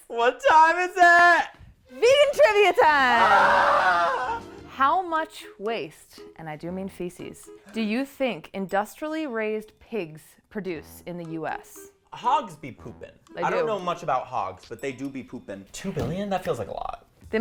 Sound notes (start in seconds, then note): 2.9 shrieks